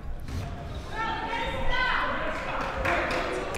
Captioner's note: claps